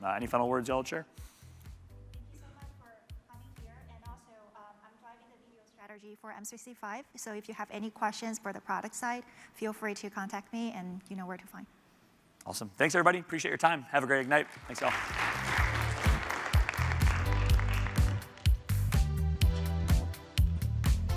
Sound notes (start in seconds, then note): 14.1 applause